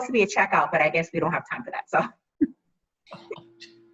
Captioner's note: laughter